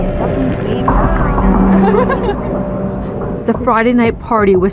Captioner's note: girlsls c chatttterering g